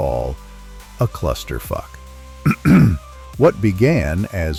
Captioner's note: clears throat